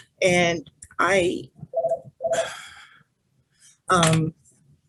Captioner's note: phone rings